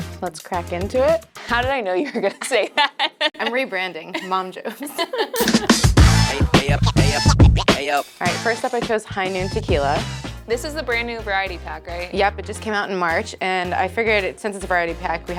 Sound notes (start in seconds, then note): 4.0 both laughing; 5.3 dynamic music